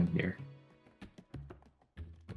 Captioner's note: none